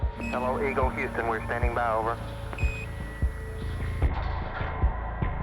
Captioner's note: beeping